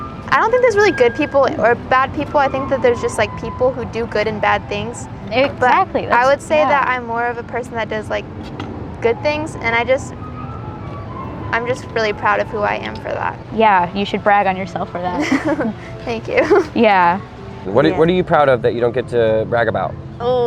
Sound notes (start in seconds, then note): 15.1 both chuckle; 16.3 chuckles